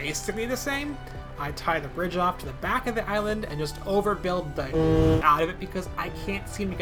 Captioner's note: foghorn